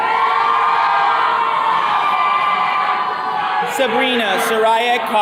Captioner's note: attendees cheering